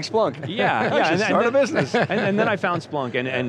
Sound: laughter

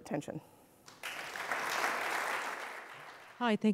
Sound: attendees applauding

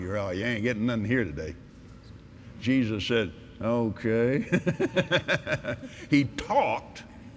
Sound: laughs

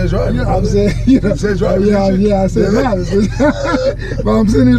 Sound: laughing

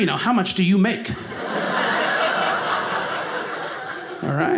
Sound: audience laughing

